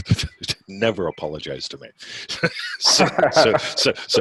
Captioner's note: laughing